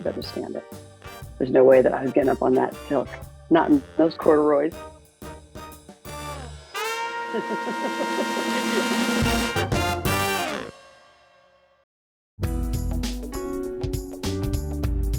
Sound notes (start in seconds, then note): 7.0 laughs